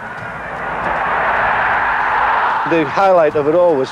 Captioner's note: crowd roaring